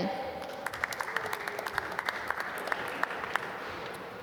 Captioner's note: applause